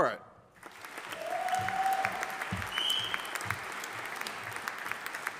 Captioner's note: audience applauding